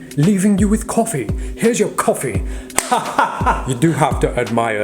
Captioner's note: laughing